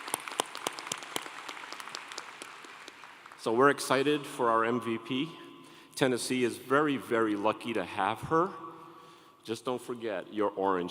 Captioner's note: applause